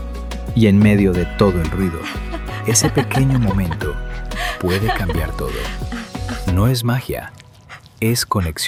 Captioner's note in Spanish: risas